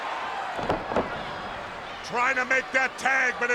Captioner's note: spectators cheering; wrestlers thud